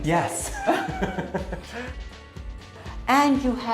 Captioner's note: laughing